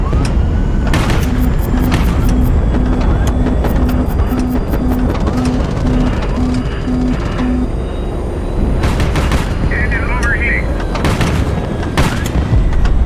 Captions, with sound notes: [Beeping intensifies as rocket approaches] "Engine overheating"